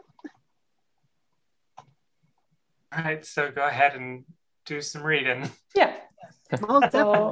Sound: laughs

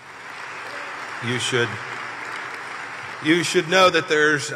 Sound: applause

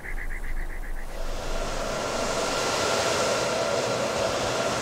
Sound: bird chirping; fans whirring

